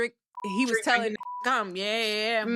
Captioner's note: beep